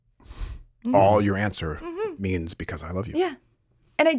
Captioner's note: laughs